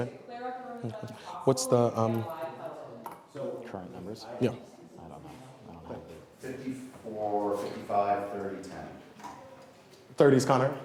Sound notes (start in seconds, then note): none